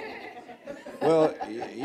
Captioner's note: general laughter